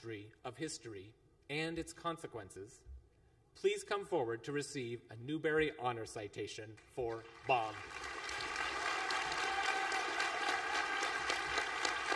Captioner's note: applause